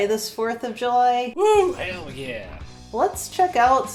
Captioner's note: male redneck voice